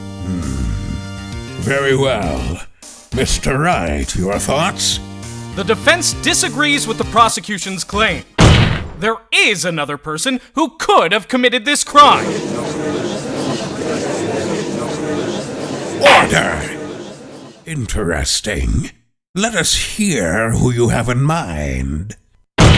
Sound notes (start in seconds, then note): 12.2 gallery chattering